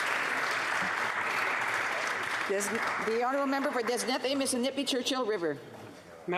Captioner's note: some Applause